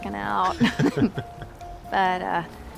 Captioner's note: chuckling